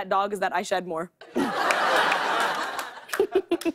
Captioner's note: laughter